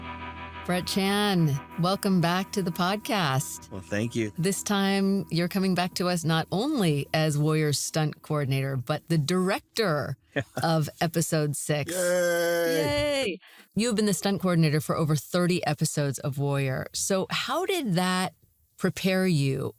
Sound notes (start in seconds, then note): 10.4 chuckles